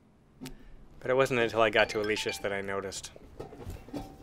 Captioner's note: cell-phone jingle